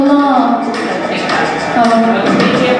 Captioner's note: people chattering